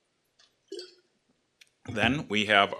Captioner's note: water splashes